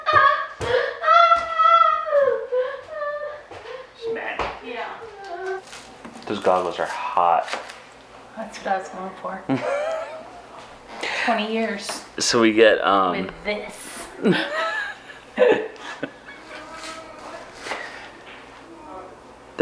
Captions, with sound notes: - She's mad. - Yeah. - Those goggles are hot. - That's what I was going for. 20 years with this. (laughs)